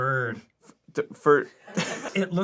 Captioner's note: arin, stammering